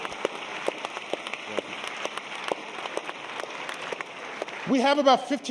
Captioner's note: applause